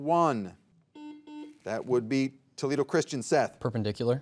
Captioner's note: soft beeping